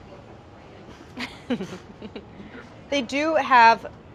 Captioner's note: laughs